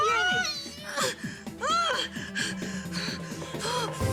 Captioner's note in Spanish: Gritos